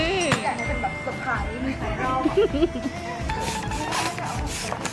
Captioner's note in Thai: เสียงหัวเราะ